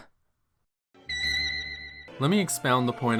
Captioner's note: spooky noise